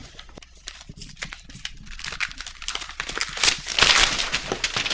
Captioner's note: paper rustling